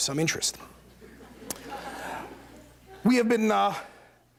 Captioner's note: laughter